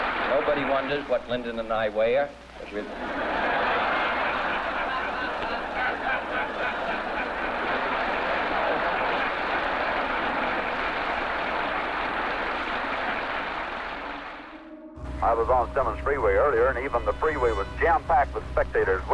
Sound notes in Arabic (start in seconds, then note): 0.0 يضحك الجمهور; 0.0 يصفق الجمهور; 2.7 يضحك الجمهور; 2.8 تصفيق الجمهور